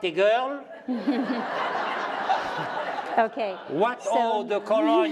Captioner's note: laughter